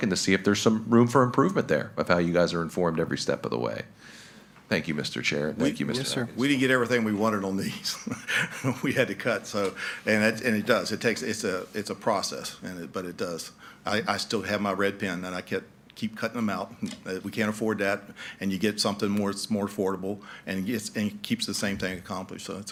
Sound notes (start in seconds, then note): 7.7 laughing